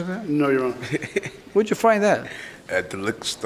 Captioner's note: laughs